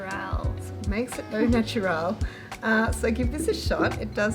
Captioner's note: giggling